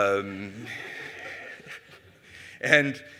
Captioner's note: audience Laughing